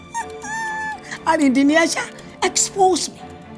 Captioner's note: laughing